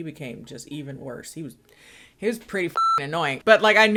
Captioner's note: beep